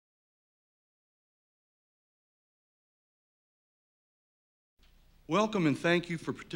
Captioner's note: silence